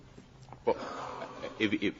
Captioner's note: laughter